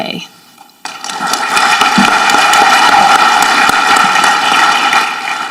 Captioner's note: audience clapping